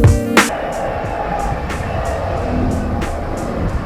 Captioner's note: traffic sounds